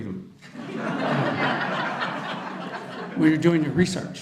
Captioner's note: audience laughter